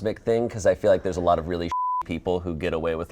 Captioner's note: beep